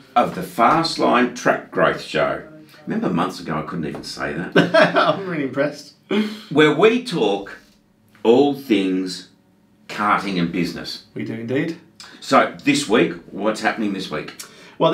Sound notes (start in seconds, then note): 4.5 laughing